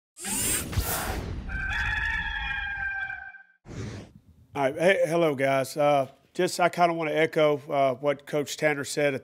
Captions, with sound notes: (metal whirring) (rooster crows) - Alright, hey. Hello guys. Just, I kind of want to echo what Coach Tanner said